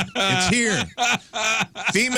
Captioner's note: laughing